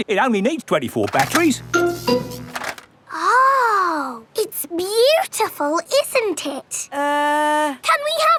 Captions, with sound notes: And it only needs 24 batteries. (BUZZING) Oh! It's beautiful, isn't it? Uh...